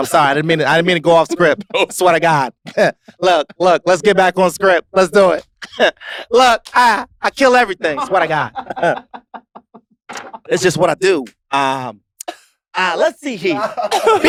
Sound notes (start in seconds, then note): 7.9 chuckles